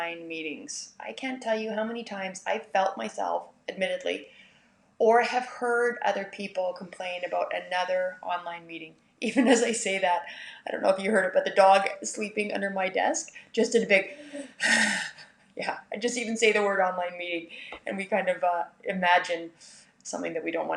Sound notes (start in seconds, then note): 14.1 sigh